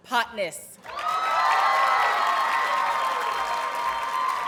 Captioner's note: audience cheers and applauds